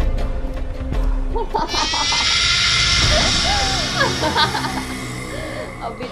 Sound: laughing

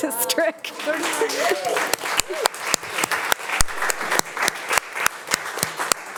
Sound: audience applauding and cheering

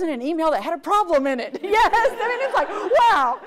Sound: audience laughs

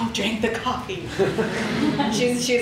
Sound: audience laughs

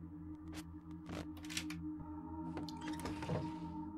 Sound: unlocking Clicks

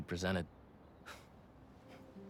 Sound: laugh

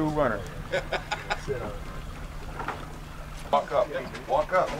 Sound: laughs

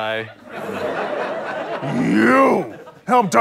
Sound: audience laughs

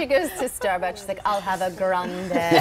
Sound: laughter

